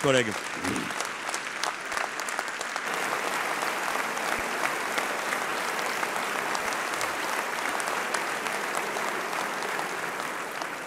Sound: applauds

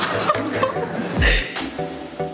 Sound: both laughing

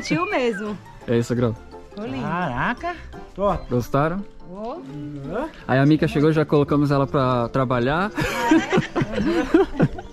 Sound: laughter

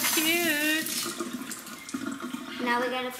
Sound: water running

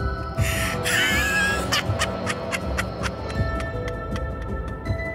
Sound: laughs

